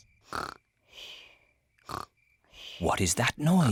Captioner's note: snoring